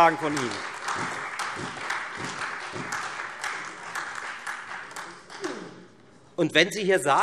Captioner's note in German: Beifall Freie Demokraten, SPD und AfD